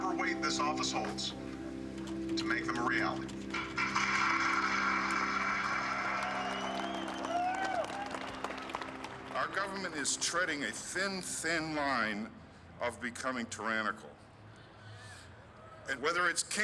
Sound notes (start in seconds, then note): 3.5 cheers and applause